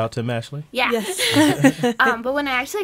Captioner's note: laughing